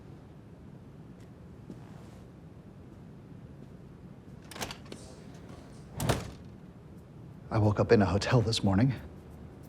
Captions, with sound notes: (door clicks open) (door bangs shut) - I woke up in a hotel this morning.